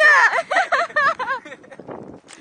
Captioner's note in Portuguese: Risos